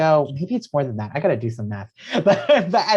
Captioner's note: laughs